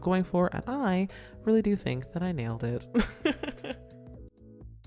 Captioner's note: laughs